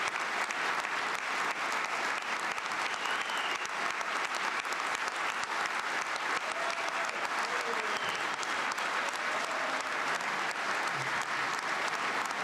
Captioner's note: applause